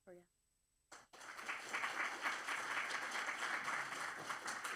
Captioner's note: applause